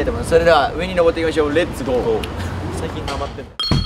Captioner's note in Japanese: none